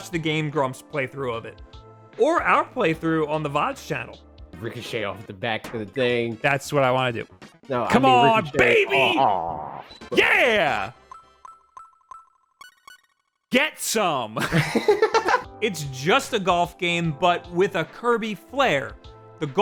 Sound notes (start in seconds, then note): 14.5 laughing